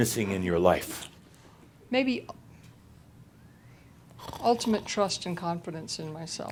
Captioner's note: Adamus makes a snoring sound